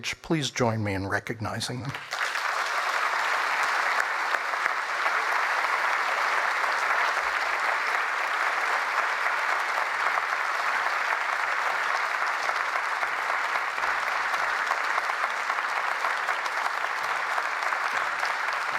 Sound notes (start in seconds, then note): 1.7 applause